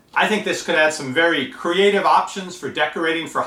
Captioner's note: none